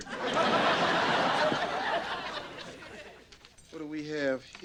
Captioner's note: audience laughing